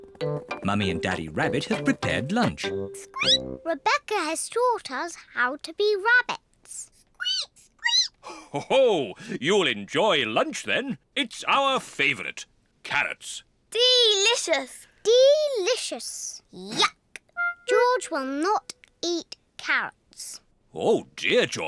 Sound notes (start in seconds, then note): 3.8 squeaks; 7.5 peppa and george squeak; 9.3 laughs